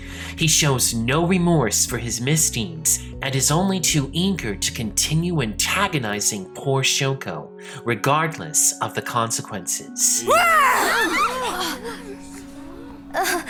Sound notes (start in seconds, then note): 10.2 students gasping